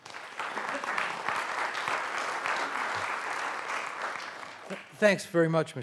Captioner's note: applause